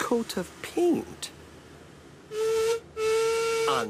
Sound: duncan whistles

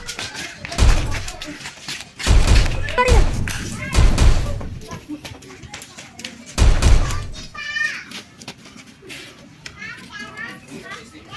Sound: gunshots

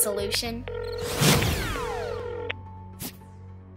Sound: ringing

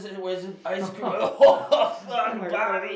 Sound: laughing

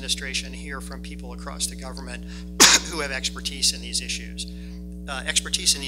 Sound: coughs

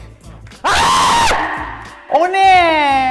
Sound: screams

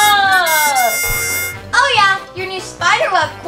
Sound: victory trumpet; elastic bongs

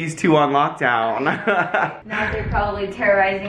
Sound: laughs

